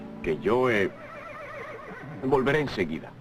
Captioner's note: horse whinnying